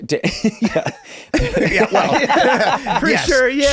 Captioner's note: group laughs